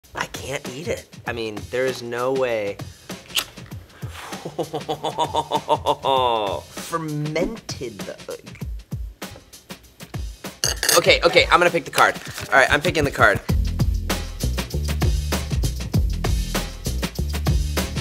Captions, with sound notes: - I can't eat it! I mean, there's no way. (can opening) (laughs) Fermented. (fork clanging) Okay, okay, I'm gonna pick the card. All right I'm picking the card. (upbeat music)